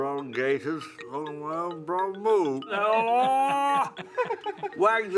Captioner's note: shouts